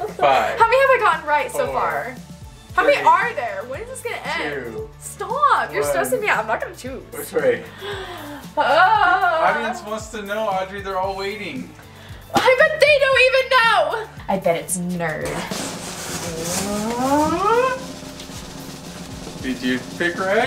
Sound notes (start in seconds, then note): 7.8 sighing moan; 15.0 drum roll